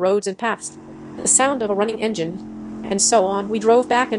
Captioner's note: the sound of a running engine